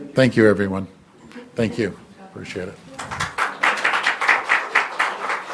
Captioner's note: applause